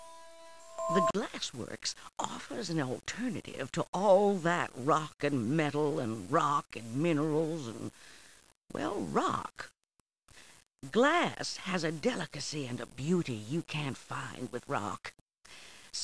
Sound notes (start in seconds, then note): none